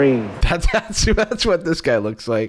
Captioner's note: laughing